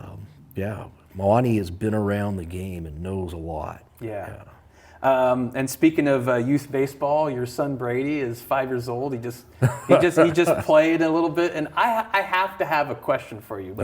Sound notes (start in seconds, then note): 9.6 laughs